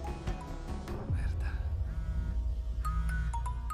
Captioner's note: cellphone vibrating; ringing continues